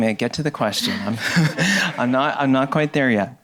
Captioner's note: audience laughing